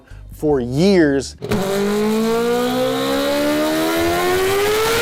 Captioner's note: engine revving